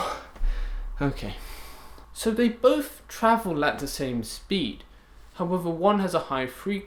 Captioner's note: breathes heavily